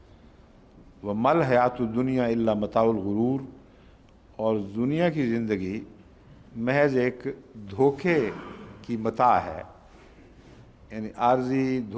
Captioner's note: Arabic